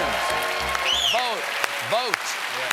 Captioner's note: cheers and applause